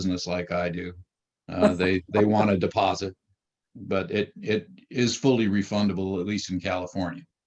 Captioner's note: laughs